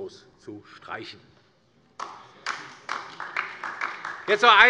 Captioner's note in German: Beifall DIE LINKE